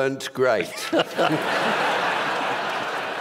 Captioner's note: laughter